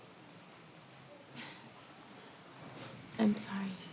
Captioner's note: chuckles softly